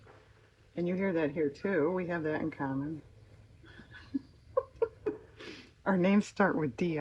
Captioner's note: laughs